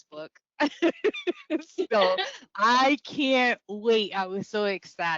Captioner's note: laughs